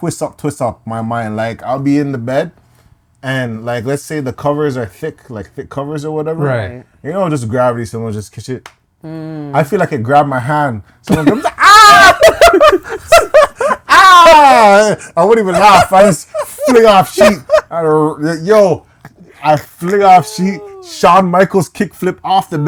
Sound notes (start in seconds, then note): 11.5 screaming; 12.8 laughing